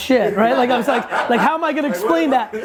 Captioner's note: laughs